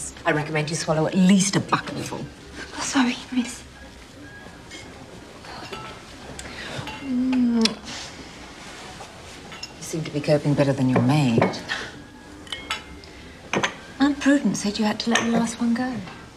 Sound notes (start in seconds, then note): 7.5 kisses